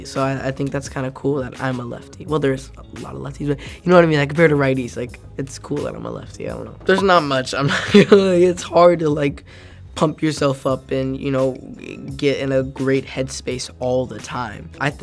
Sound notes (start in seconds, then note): 7.6 laughs